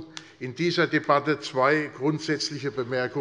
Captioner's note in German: none